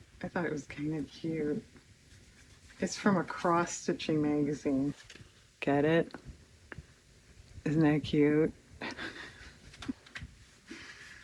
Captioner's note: laughs